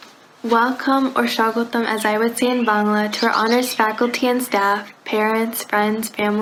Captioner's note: foreign language